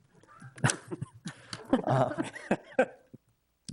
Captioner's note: laugh